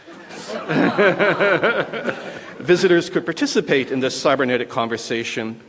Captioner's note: laughter